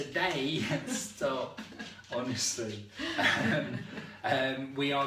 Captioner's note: laughs